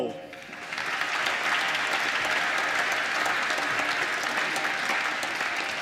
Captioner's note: applause